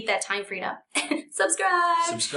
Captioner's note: laughs